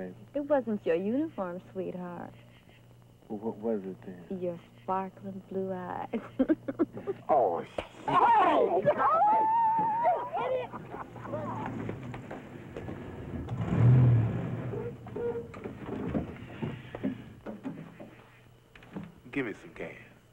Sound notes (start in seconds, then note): 6.1 laughing